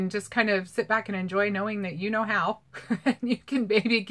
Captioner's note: laughing